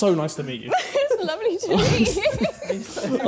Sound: chuckling; laughing

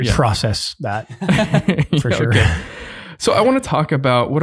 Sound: group laughing

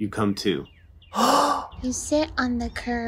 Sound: big gasp

